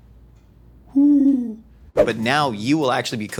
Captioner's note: owl noise